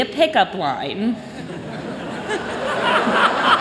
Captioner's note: laughter